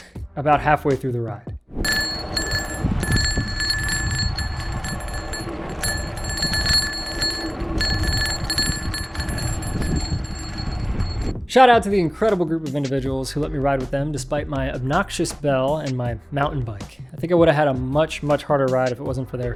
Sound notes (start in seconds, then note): 1.8 bell ringing on its own